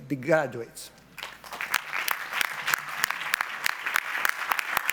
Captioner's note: audience applauds